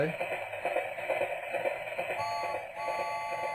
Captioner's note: train chugging; horn blowing